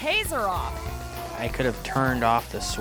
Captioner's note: yelling